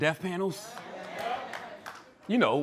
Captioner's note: scattered applause